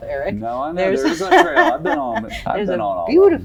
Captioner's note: laughs